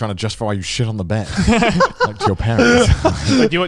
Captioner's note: everyone laughs